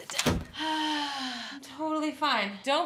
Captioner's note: breathing deeply